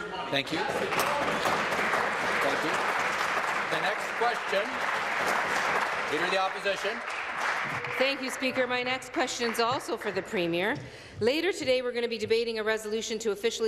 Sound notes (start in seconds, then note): 5.4 applause